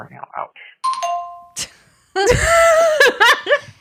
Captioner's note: laughing